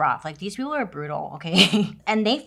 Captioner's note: laughs